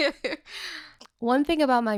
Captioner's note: laughing